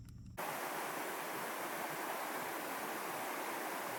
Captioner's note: water lapping